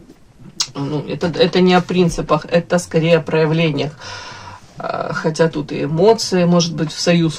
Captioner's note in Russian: вздыхает